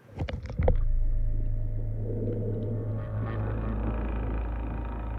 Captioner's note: low rumbling